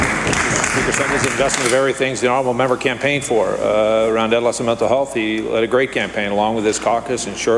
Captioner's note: applause